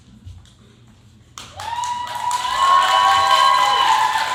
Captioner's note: cheering